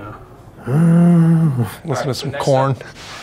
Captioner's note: Walker grunting